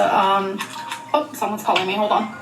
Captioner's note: Amberlynn's phone rings